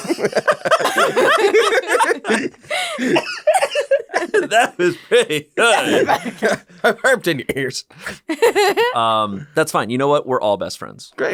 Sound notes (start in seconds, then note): 0.0 all laughing